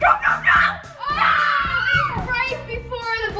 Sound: screaming

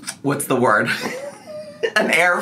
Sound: laughs

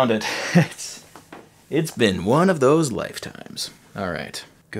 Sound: chuckling

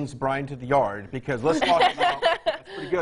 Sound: laughing

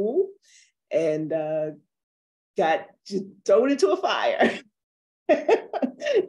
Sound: laughs

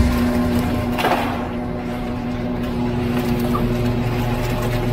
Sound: mechanical whirring

